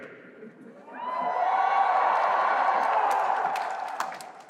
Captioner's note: cheering